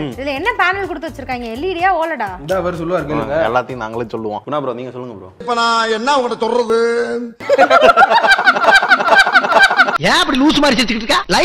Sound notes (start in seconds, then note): 7.5 Laughing with special Chandramukhi 2 effects